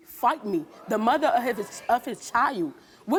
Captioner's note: audience gasping